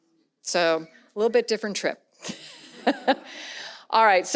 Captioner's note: laughs